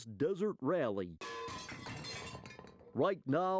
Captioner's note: metallic clanging